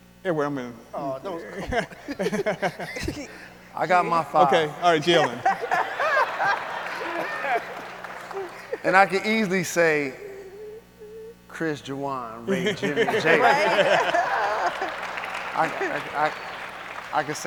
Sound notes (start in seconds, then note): 2.2 speakers laughing; 5.9 audience and speakers laugh; 14.3 audience applauds